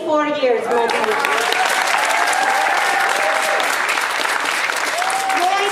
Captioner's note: audience applauding